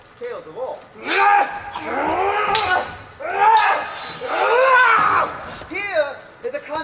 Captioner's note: battle grunts